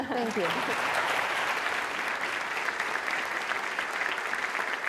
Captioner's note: audience applauding